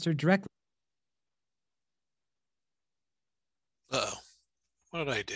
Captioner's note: sound cuts out